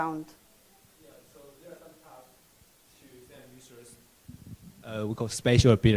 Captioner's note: microphone echoing loudly